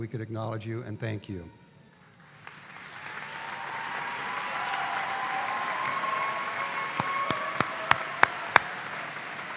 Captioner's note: applause